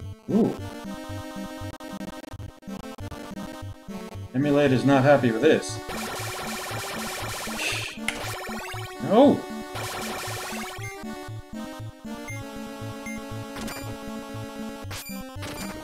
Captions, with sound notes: Woo. Emulator's not happy with this. [laughs softly] No!